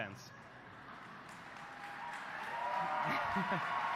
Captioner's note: applause